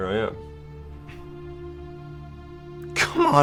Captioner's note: Patrick scoffs